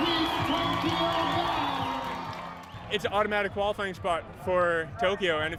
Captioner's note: cheers and Applause